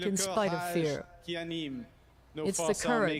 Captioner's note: speaking French